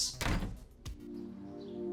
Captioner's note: door closes; mello music